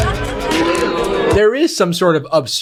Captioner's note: crowd boos